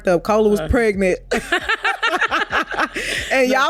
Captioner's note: both laughing